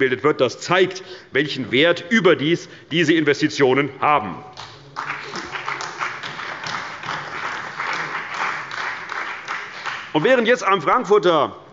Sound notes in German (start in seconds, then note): 4.9 Beifall bei der CDU und dem BÜNDNIS 90/DIE GRÜNEN